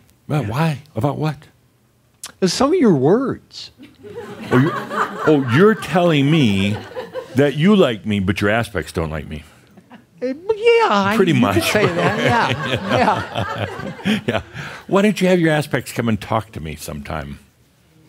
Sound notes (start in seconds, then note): 4.3 some laughter; 11.2 chuckling; 11.2 laughter